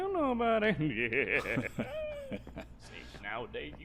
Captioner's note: Bumbo and Kyle laughing